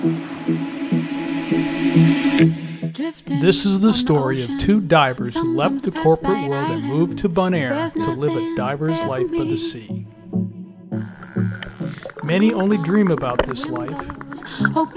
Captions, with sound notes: This is the story of two divers who left the corporate world and moved to Bonaire to live a Diver's Life by the sea [dolphins communicating] Many only dream about this life.